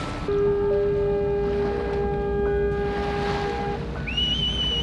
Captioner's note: ship horn sounds; whistling